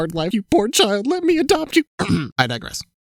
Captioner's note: clears throat